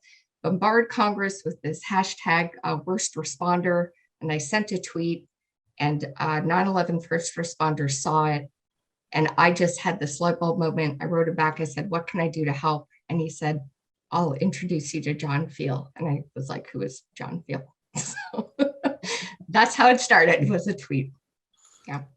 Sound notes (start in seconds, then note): 18.1 laughs